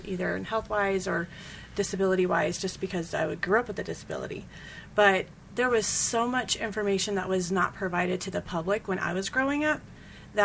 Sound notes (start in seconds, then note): none